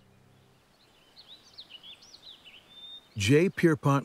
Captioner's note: birds chirping